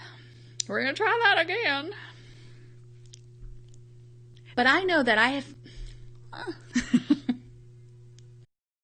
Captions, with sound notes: We're gonna try that again. But I know that I have (laughs).